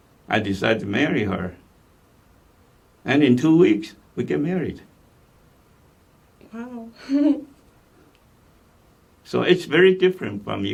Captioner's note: laughs